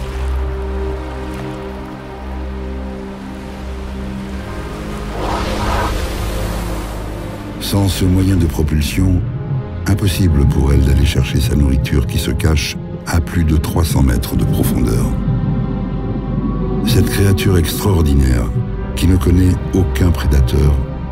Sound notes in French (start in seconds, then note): 4.9 Rorqual qui souffle